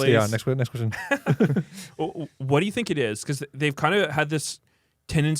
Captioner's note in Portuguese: risos